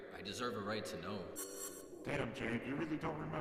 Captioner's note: zipping